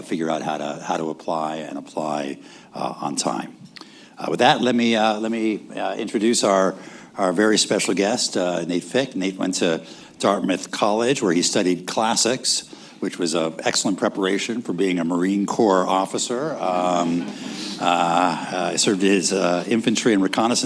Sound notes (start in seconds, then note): 16.9 laughter